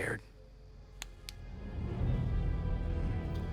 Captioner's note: flashlight clicks